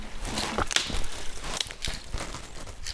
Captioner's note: branch snaps